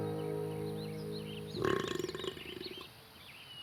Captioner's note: burp